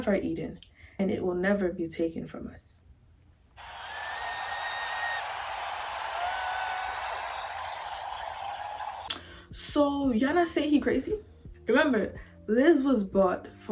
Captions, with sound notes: our Eden and it will never be taken from us. *crowd cheers* So y'all not saying he crazy. Remember Liz was bought